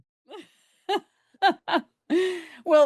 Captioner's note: laughs